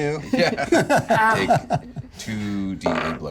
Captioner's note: laughs